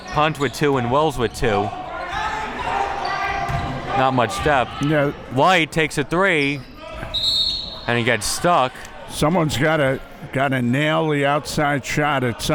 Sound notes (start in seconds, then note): 7.1 whistle blowing